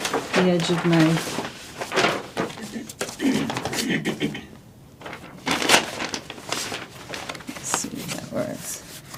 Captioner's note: rustling Papers